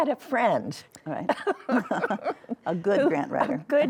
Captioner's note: chuckling